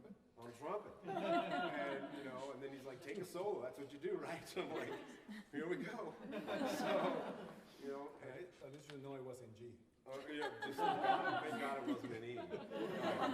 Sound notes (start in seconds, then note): 1.0 laughter; 4.6 laughter; 10.1 laughter